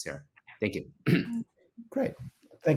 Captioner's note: clears throat